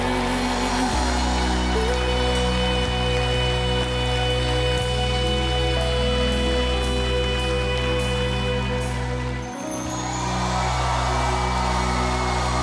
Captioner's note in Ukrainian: оплески